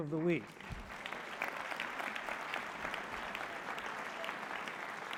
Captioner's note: applause